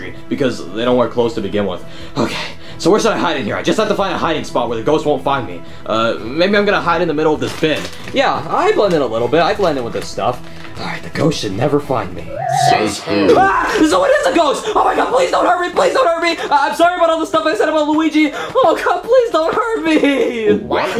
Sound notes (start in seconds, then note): 12.3 yells; 12.6 eerie music